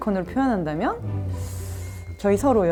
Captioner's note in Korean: 의 고민하는 입소리